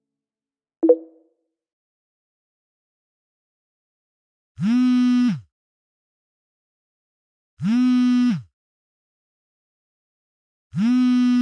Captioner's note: phone Vibrating